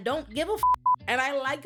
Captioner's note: beep